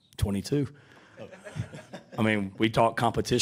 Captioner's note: audience laughing